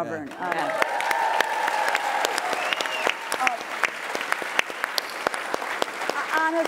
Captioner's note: applause